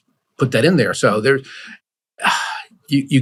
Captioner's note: sighs